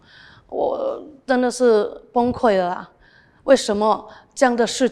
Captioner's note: in Mandarin